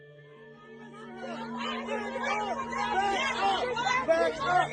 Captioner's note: onlookers clamoring